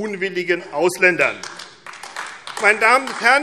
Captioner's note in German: Beifall AfD